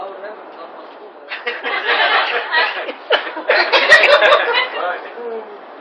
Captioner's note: laughter